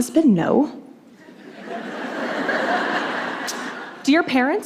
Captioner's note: laughter